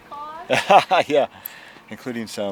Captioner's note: laughing loudly